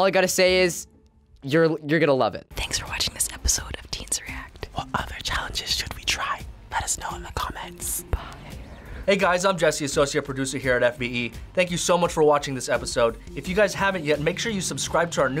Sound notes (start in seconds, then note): 2.5 whispers; 8.3 whispers